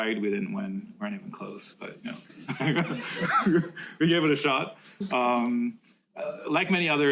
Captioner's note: laughs